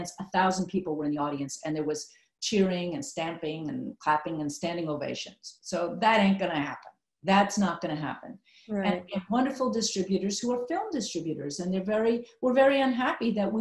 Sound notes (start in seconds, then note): none